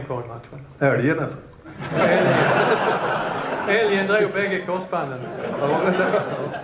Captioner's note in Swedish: Skratt